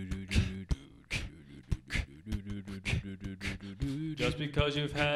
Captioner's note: beatboxing